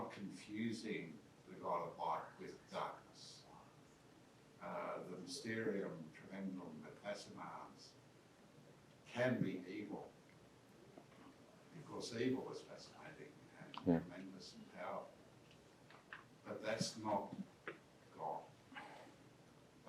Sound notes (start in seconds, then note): 5.2 speaks in foreign language